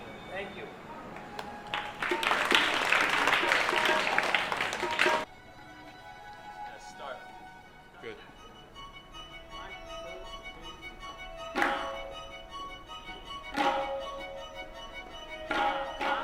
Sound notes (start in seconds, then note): 1.2 applause; 11.6 clapping